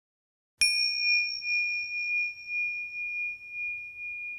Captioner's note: bell chiming